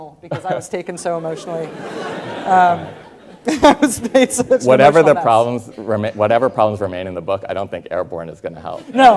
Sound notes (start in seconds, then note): 1.1 students laughing